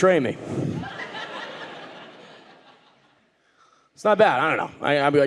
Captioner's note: audience laughing